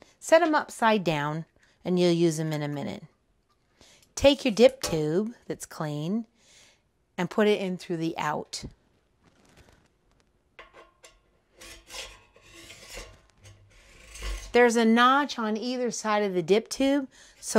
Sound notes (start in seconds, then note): 10.6 metal scraping